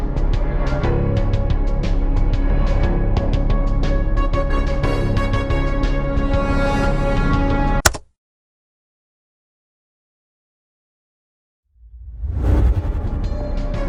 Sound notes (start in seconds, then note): 7.8 key Click, Music Stops; 11.8 woosh